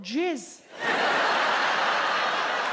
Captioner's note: audience laughs